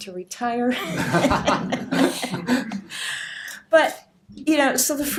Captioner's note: audience laughter